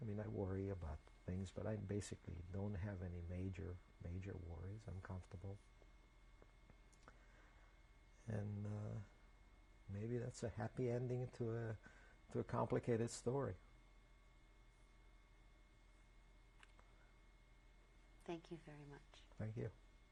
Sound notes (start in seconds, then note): 5.3 pauses for 3 seconds